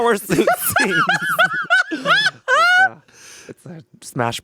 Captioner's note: laughing